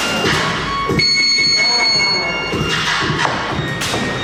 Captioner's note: bell rings; hip hop music